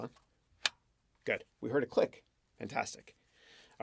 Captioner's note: clicks